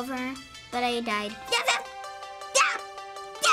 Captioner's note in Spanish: Emocionada